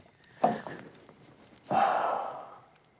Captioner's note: sighing